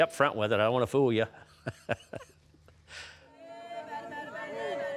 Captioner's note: laughs; onlookers chanting and clapping